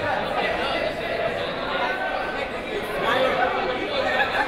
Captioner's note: crowd murmuring